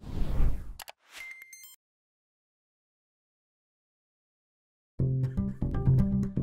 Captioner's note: electronic whooshing; mouse clicking; electronic chiming; upbeat music